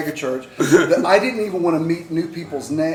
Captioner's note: laughter